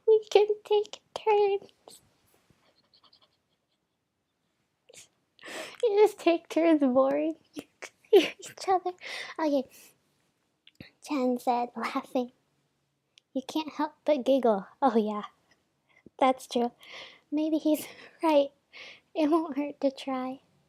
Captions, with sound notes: "'we can take turns.'" *more laughing* yO u juSt take turns VORING ea- each other o KAy *inhale* "Chan said, laughing." "You can’t help but giggle." oHYEah that's tru "Maybe he’s right. It won’t hurt to try."